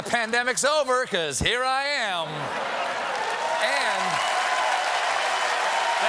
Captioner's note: laughter; cheers and applause